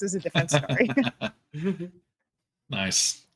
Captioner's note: laughing